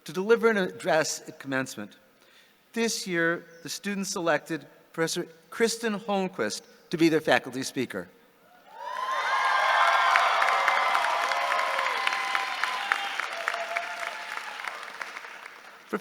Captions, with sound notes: to deliver an address at commencement. This year, the students selected Professor Kristen Holmquist to be their faculty speaker. (audience cheering)